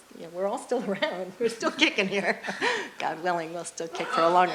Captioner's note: laughs